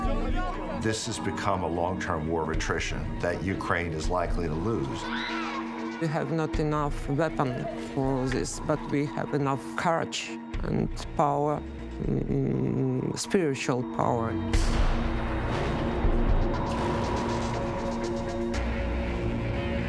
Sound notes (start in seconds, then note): 5.0 screams; 14.6 cannon booms